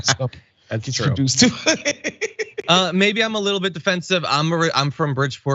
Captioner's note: laugh